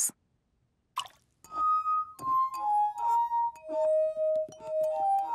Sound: water drips; glasses vibrate melodically

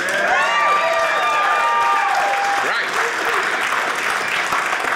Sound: audience applauding

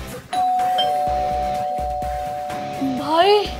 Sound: door bell ringing

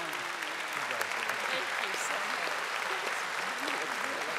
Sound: audience applauding

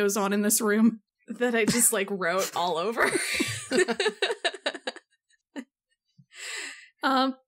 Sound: laughs

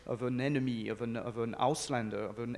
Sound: speaks in foreign language

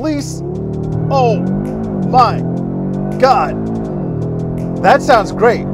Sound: engine revving

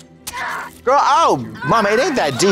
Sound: Nami stabs and screams

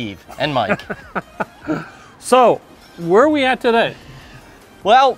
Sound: laughs

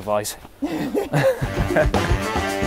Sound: laughs; upbeat instrumental

